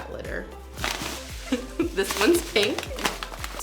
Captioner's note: laughs